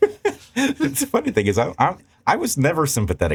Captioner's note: laughing